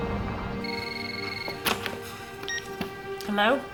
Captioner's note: phone ringing